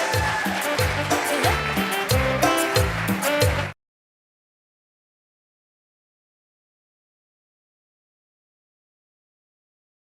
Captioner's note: cheering and applause